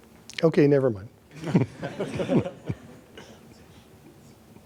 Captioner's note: laughter